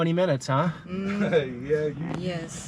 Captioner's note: laughs